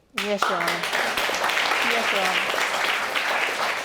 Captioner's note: audience applauds